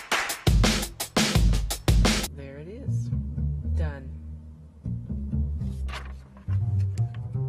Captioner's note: energetic instrumental hip-hop music begins; energetic instrumental hip-hop music ends; music changes to bass guitar plucking; paper rustles; bass guitar plucking fades out